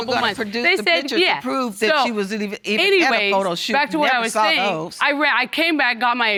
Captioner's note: arguing